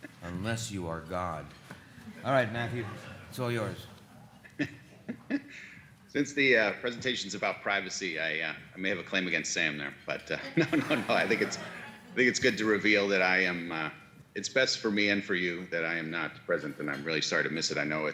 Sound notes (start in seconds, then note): 4.2 laughs; 10.4 laughs; 10.5 audience laughs